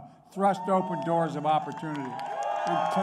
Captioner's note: applause